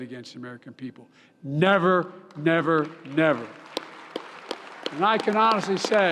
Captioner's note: applause